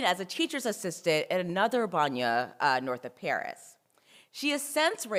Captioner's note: french